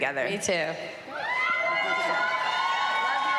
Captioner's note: cheering and applause